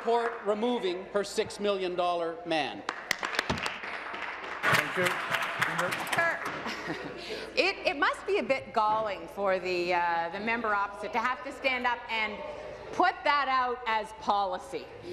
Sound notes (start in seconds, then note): 0.2 applause; 6.8 applause